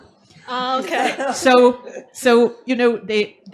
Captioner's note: laughs